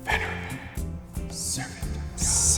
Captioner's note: voiceover